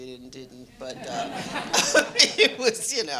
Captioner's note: audience laughing